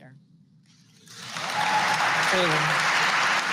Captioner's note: applause